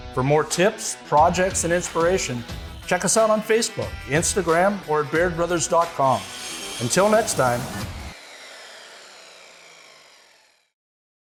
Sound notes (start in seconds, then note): 6.0 machine whirring; 8.5 upbeat rock music continues